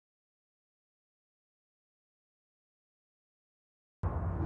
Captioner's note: whoosh for logo